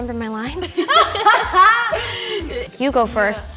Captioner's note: all laughing